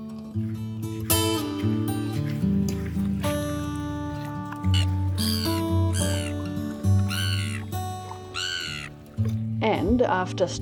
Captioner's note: gulls squawking